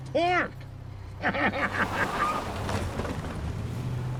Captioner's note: laughing; tires screech